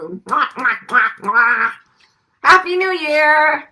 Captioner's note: makes kissing noises